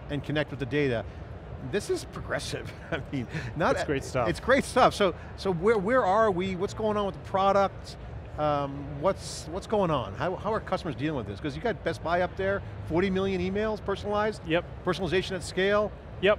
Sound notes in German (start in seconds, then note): 2.7 lacht